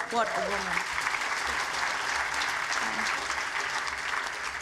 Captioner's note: applause